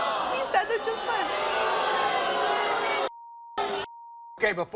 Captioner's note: audience booing